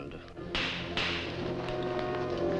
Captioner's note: dramatic music; gavel bangs